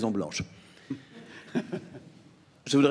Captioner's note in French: Rires